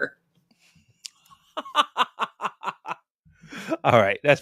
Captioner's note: laughter